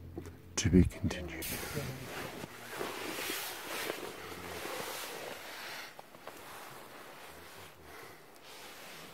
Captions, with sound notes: To be continued. (rustling)